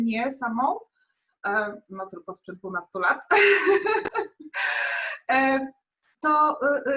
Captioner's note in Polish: śmiech